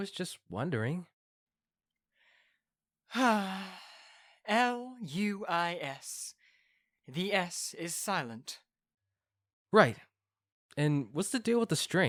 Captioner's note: sigh